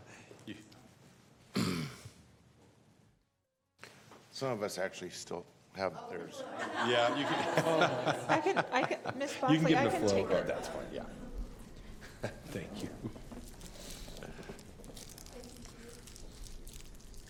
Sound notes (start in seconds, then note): 6.4 laughter